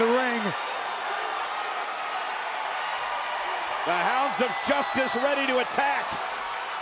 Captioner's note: applause